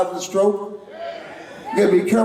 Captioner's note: crowd